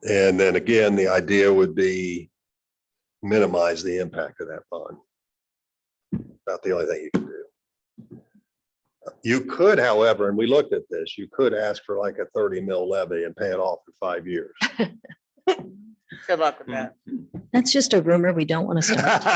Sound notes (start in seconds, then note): 15.0 laughing